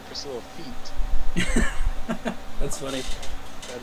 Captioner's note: laughing